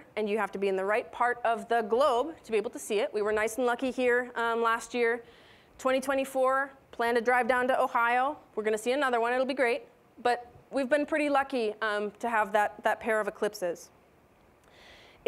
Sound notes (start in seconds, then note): none